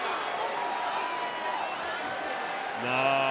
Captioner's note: applause